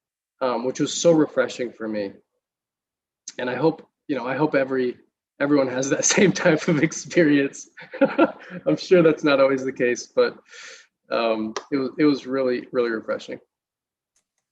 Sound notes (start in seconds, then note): 7.7 laughter